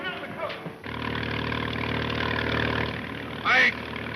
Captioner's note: speedboat engine revving